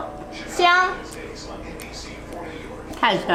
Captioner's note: grandma speaking Chinese; speaking Chinese; grandma speaking Chinese